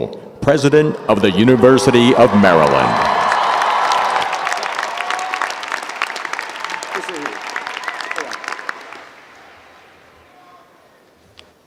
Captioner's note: applause